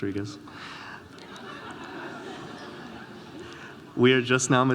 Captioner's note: audience laughing